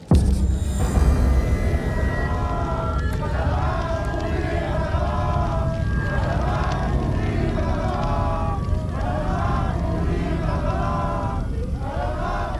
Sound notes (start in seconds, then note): 0.1 dramatic music; 2.3 chanting in foreign language; 2.3 light dramatic music